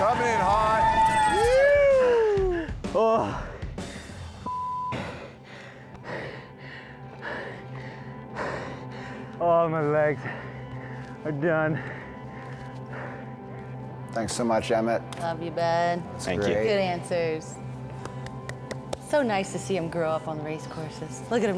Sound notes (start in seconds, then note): 17.9 clapping